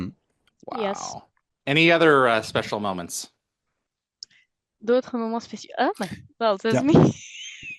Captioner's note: translating from French